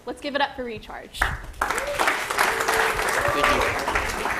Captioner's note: applause